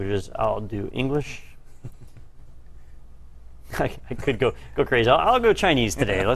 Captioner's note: laugh